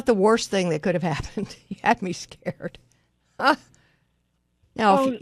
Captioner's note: laughs